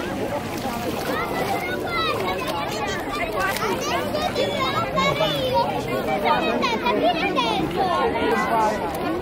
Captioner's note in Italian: voci di bambini in sottofondo